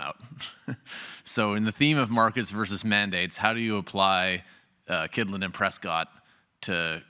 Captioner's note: laugh